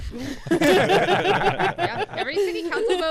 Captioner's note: laughing